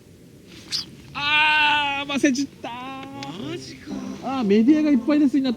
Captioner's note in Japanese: 悲鳴